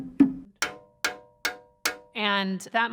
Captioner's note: thumb piano playing; metal clanking